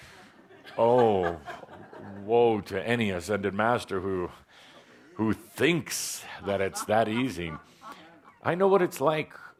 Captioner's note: laughter